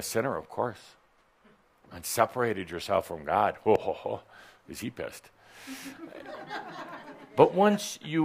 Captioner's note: some giggles